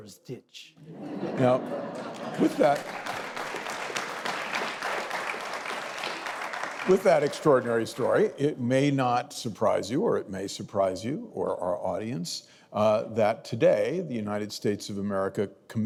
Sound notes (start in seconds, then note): 3.3 audience laughing; 6.4 audience applauding